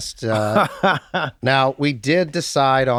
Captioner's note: laughs